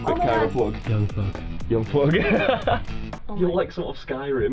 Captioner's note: laughs